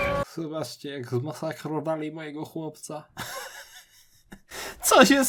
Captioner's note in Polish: śmiech